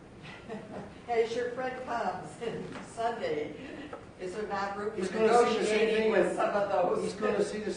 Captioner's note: laugh